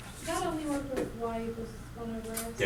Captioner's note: voiceover